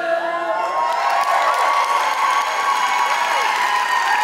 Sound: audience cheering

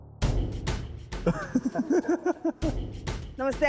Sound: laughing

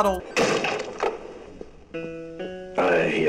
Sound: crashing noise

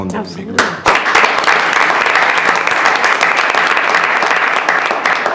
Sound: audience applauds

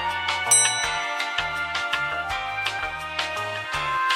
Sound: ding!

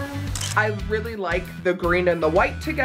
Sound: camera snaps

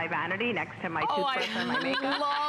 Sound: laughter

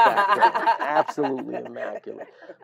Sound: laugh

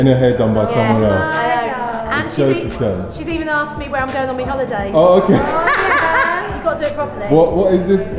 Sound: laughs

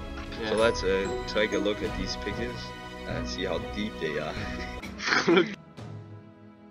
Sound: laughing

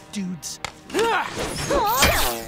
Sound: grunting

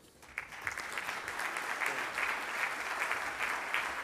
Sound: audience applauds

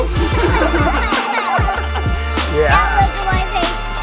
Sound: everyone laughs

